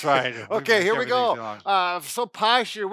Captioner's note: laughs; mumbles